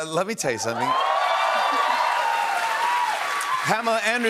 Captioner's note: cheers and applause